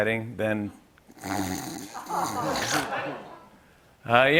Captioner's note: snores